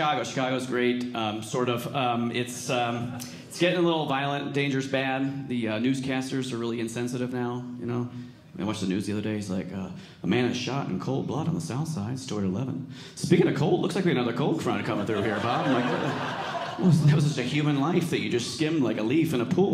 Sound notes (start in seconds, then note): 14.8 audience laughing